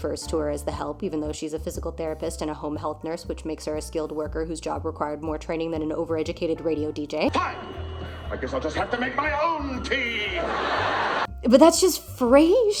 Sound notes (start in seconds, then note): 9.9 canned laughter